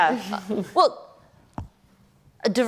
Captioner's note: laughter